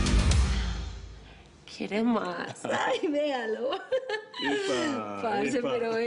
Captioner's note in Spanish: Risas